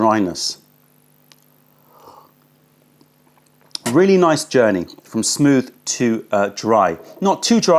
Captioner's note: sips tea